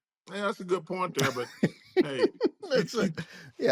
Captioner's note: laughs